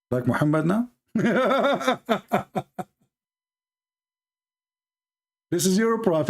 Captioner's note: Ketawa